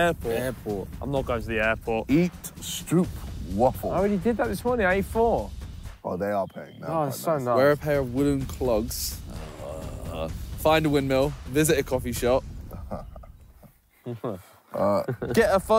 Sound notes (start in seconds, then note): 9.2 groans; 13.0 laughing